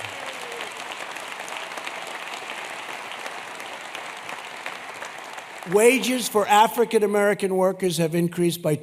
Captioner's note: applause